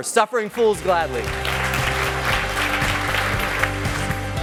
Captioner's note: applause